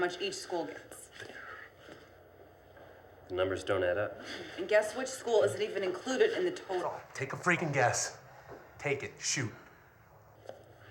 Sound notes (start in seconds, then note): none